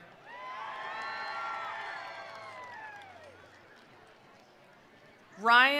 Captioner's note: attendees cheering; attendees applauding